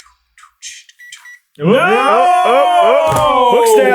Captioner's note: gentle beeping